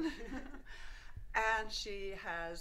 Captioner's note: both laugh